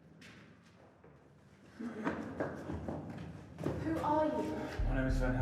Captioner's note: footsteps running